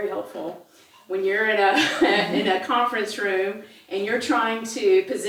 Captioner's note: laugh